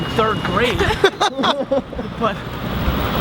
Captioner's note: all laugh